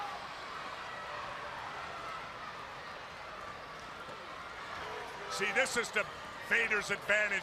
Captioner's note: crowd chatters